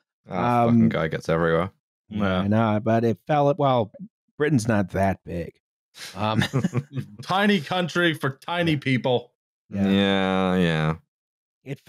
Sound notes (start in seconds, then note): 6.1 light laughter; 7.4 shouting for some reason